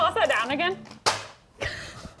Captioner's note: bag thudding; laughs